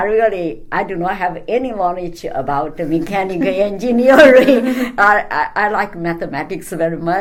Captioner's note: all laugh